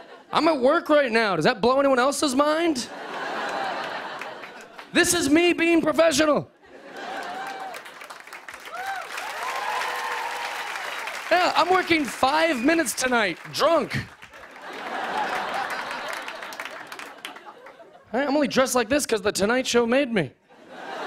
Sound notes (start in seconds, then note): 2.8 laughter; 6.1 applause; 7.8 cheers and applause; 14.2 laughter